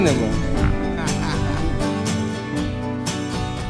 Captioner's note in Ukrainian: чоловічий сміх за кадром